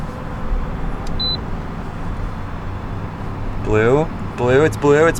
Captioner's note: car beeping